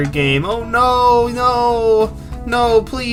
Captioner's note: whining